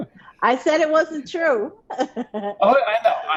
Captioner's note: all laughing; laughs